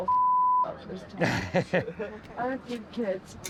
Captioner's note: laughing